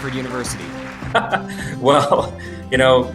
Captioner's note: laughs